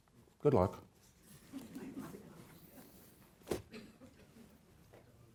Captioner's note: audience laughs